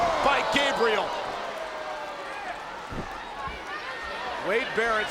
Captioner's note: crowd yelling